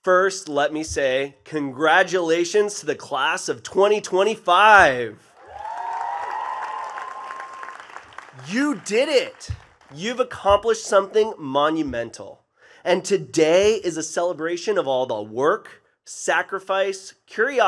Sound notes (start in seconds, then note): 5.3 attendees cheering and clapping